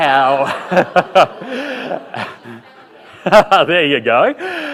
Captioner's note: laughter